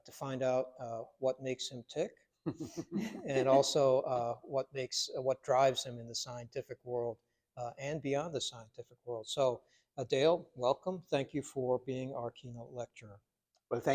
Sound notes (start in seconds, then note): 2.5 doctors laughing lightly